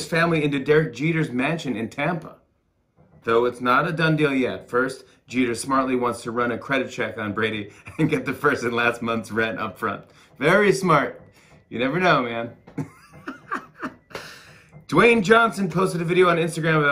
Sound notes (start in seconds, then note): 7.8 laughter; 12.7 laughs